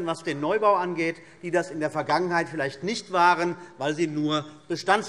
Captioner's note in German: none